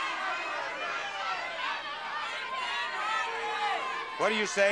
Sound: audience shouting

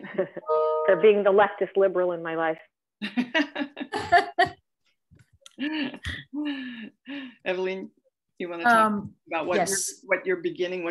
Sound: laughter

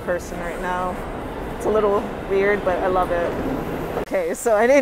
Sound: louder screeching; train cars rattling

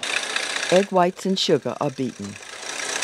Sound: voiceover

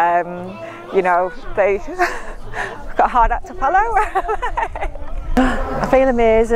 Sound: laugh

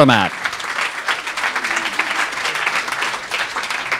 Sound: crowd applauds

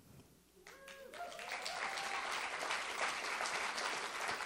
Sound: attendees applauding

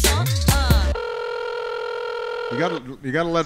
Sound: phone rings

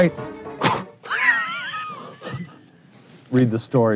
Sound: spitting pickle and laughing

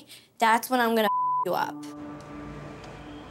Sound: beep

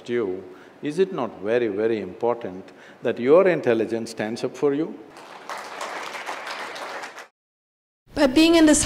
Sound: applause

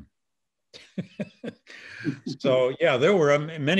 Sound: laughs

